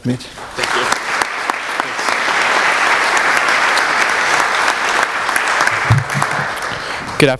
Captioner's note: applause